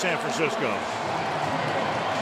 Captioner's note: pa announcement; cheering